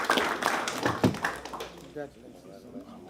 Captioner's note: applause